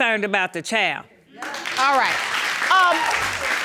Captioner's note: audience applauding